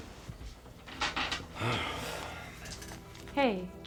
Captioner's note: door thuds; Zac sighs